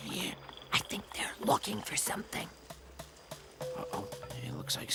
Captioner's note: whispering; Bunni, whispering; whisper